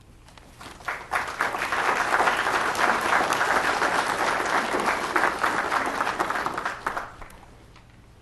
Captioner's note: applause